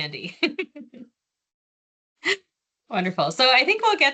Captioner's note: laughing